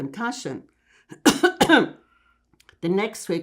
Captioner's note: coughing